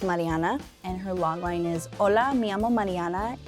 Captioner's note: foreign language